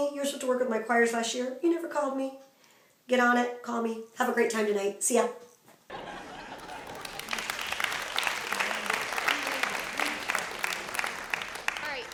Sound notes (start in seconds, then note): 5.9 audience laughing; 6.3 applause